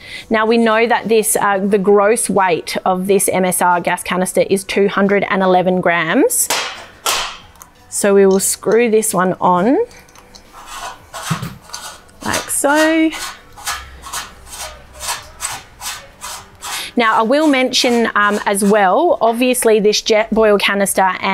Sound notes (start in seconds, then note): 6.5 canister thuds; 12.9 canister squeaking